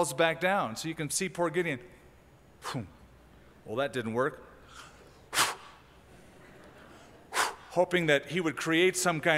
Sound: blowing

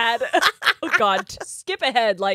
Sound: both laughing

